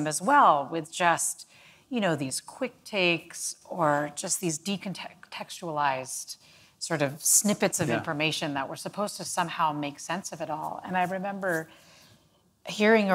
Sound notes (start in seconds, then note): none